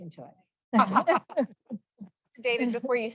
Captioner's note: laughter